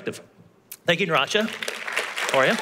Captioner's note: applause